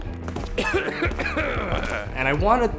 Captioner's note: doctor coughs